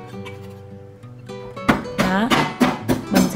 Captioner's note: beating sound